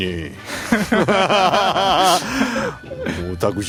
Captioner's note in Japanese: 笑い